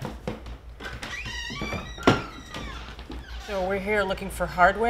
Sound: door opens

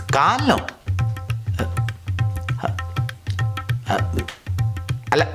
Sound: George stammers

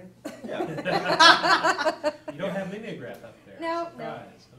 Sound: laughing

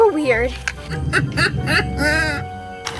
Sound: laughing

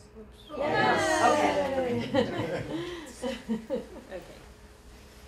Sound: cheering

